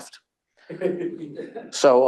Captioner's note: attendees laughing